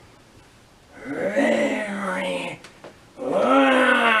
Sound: ALLIGATOR growls

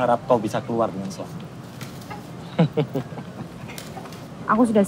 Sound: CAK JON chuckles

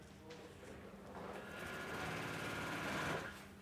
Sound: the sewing machine rattles

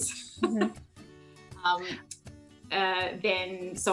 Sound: laughing

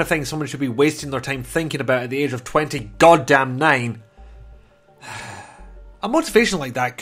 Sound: sigh

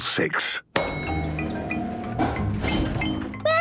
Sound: elevator dings

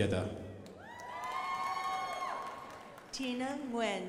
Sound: crowd applauding

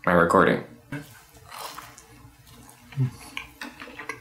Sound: chews noisily

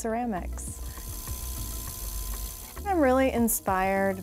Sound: pottery wheel spinning

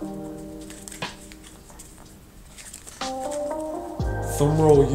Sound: cards shuffling; soft drum music

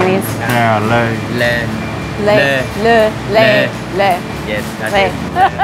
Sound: all speaking in Vietnamese

